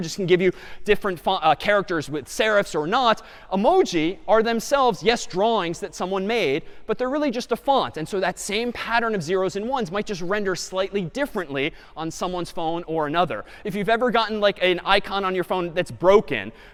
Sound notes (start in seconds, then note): none